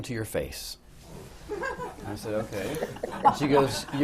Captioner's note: laughter